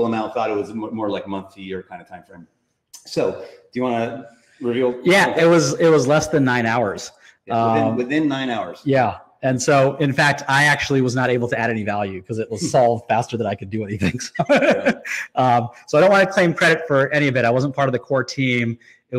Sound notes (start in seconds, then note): 13.8 laughs